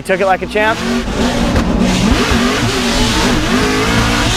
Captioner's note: car engines roar